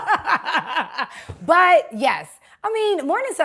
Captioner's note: laughter